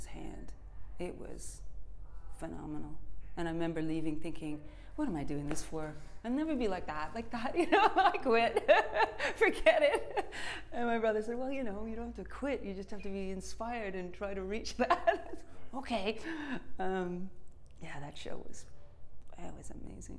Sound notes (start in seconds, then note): 10.7 laughs